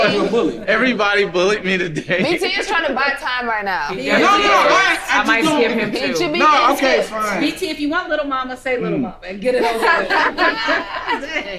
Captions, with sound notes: - You a bully. - Everybody bullied me today. - BT's trying to buy time right now. He is! (group arguing) - No, no, I be doing. Okay, fine. - BT, if you want Little Mama say Little Mama. - And get it over with. (group laughing)